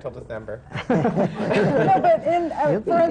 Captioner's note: laughter